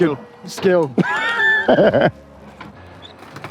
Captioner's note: laughing